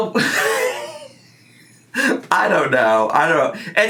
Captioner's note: laughs